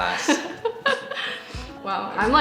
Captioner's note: chuckles